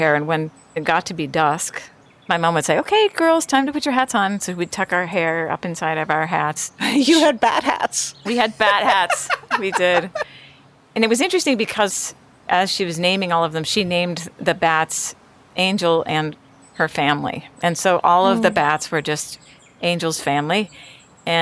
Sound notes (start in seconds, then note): 10.2 laughs